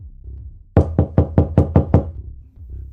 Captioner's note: knocking